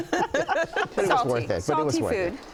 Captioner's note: laughing